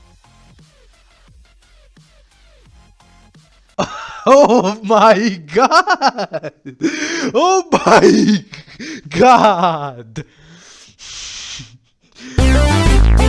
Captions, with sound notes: OH MY GOD! [laughter] [gasp] OH MY... GOD!